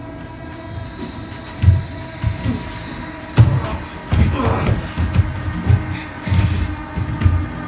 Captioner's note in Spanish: Gruñidos